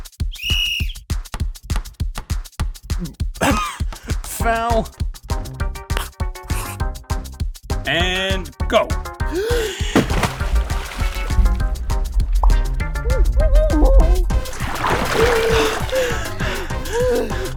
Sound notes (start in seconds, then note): 0.2 whistle blow; 3.4 cough; 9.2 deep breaths; 9.9 water splash; 13.1 muffled screaming; 15.0 loud breathing